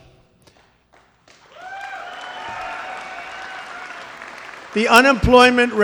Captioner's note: applause